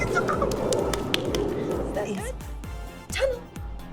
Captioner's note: hands clapping